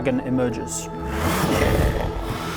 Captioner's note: brrrgrrrrrrrrr